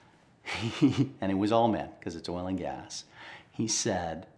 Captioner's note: laughs